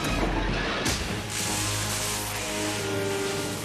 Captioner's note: electric zap